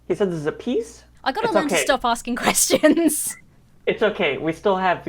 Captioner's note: laughs